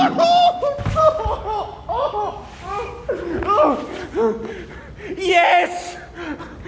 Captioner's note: groaning